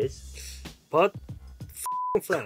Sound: beep

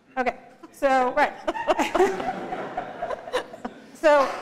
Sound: laughter

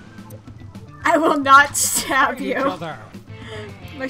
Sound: through laughter

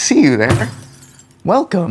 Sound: glass breaks

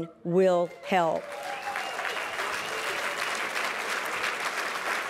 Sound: applause

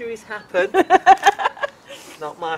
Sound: laughter

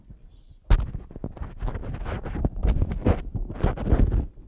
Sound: microphone noise

